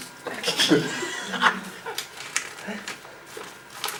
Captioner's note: laughs